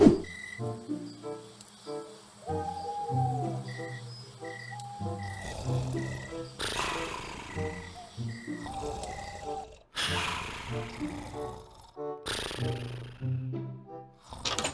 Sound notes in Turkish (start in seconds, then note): 2.6 Horlama sesi